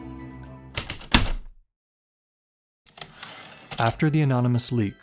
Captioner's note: heavy typewriter keystrokes then return slide